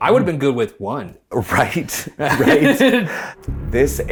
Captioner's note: laughs